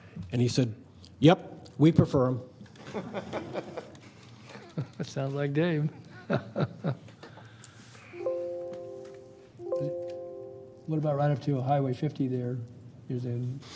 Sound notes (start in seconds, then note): 2.8 laughter; 6.0 laughter